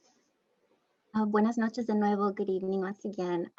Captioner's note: speaking in Spanish